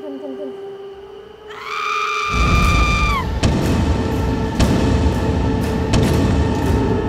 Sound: head bamming sound

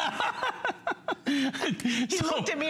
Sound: laughter

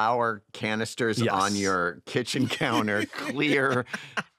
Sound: laughter

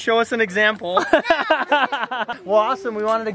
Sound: laughs

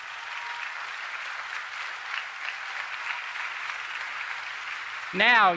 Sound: applause

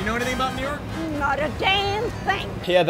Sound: none

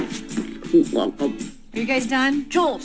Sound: imaginary sound of Grayson hitting the deck; quietly

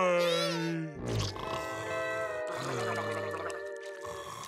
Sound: snoring, gurgling

